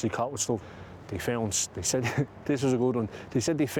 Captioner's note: laughs